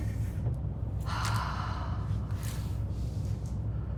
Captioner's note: mother sighs